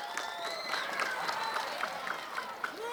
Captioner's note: applause